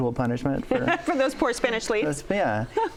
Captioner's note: laughs